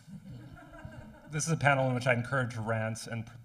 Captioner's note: audience laughing